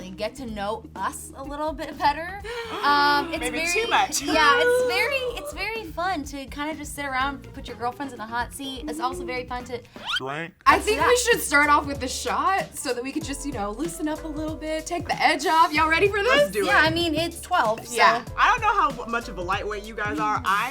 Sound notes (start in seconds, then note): 2.5 laugh; 4.5 uncomfortable groans